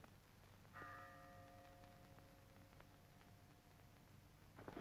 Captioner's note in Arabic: رنين الجرس